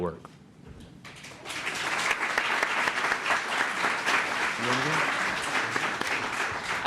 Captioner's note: applause